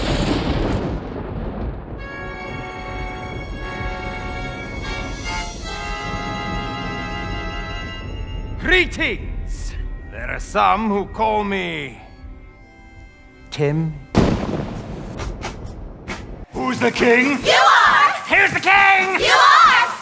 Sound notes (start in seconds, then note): 0.1 thunder booming; 2.2 intense music; 14.1 thunder booming; 16.5 upbeat music